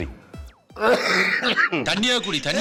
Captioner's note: coughs